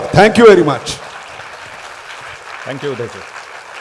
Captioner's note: applause